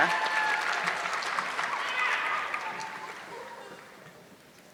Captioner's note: audience clapping